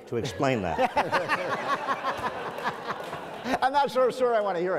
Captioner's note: audience laughs